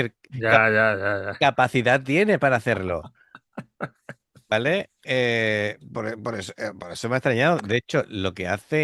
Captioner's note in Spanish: risas